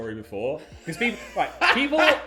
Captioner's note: laughing